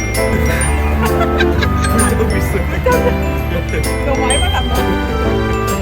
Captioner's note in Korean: 웃음